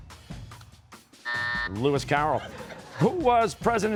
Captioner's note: buzzer